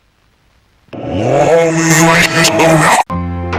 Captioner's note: devilish groanings